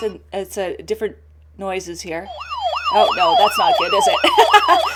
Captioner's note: police siren